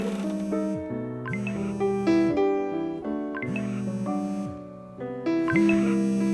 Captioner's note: phone vibrating